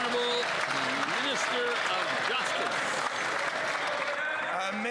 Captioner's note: some Applause